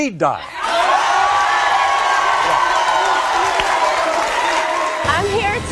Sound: audience cheering

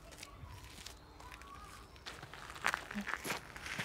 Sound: footsteps on gravel

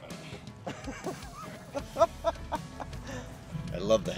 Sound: laughs

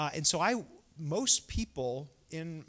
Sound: none

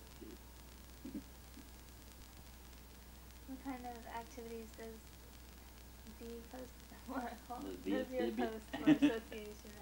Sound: chuckles

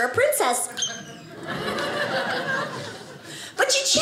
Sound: audience laughing

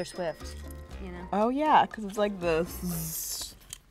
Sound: cash register rings; buzzes

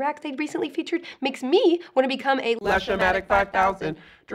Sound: robotic voice

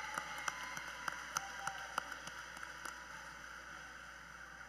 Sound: cheers and Applause

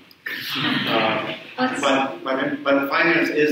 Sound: audience chuckles

